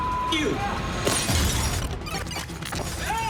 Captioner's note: glass shatters